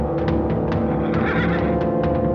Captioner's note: horse neighing; drumming throughout